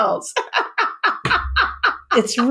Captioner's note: laughs